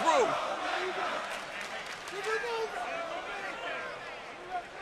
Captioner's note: crowd chatter